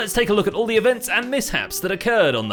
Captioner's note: none